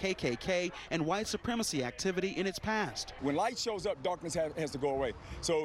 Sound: crowd chanting

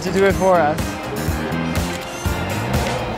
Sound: shutter clicking

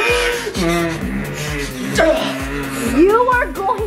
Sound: heavily breathes

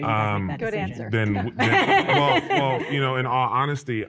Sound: laughs out loud

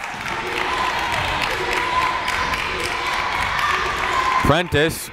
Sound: crowd chanting defense

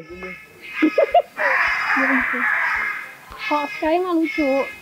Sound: chuckled

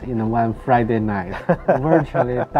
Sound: laughs

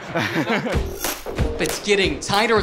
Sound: laughing

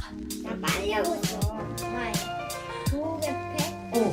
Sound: just laughing

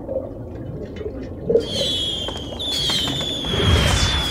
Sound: fireworks blasting

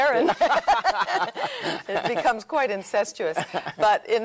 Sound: both laughing

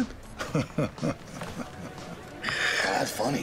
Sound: chuckles

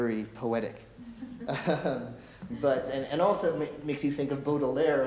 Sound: chuckles

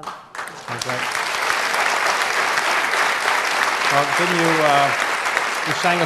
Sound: audience applauds

